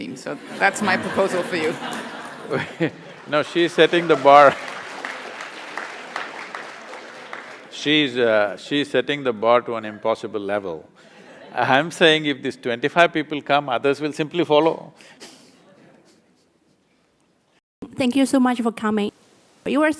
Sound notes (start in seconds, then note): 0.4 laughter; 1.8 applause; 3.5 laughs; 6.5 applause; 17.0 laughs